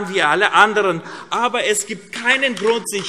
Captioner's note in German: Vereinzelter Beifall AfD